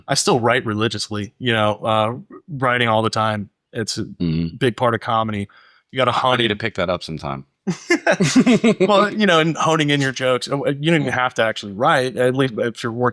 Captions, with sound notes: I still write religiously, writing all the time. It's a big part of comedy. You got to honey to pick that up sometime. (laughing) Well, and honing in your jokes, you don't even have to actually write, at least if you're